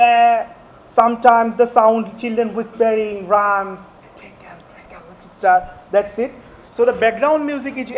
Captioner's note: whispering